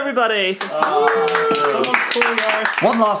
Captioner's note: all clap